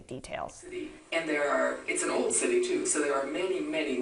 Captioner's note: voiceover